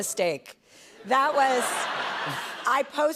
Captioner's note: laughter